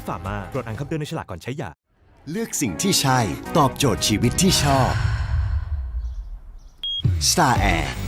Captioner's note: sigh